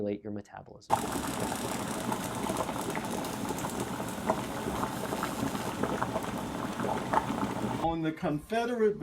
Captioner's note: bubbling sounds